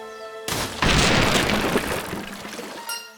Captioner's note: crack... Snap, crack, crack... CRASH!!!